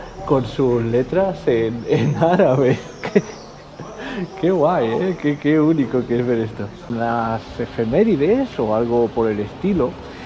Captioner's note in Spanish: risas